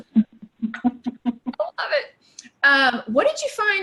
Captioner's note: laughing